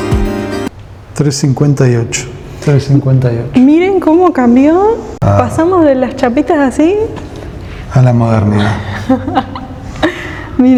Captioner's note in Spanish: risas